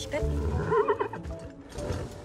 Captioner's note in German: Wiehern